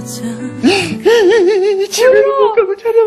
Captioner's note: starts crying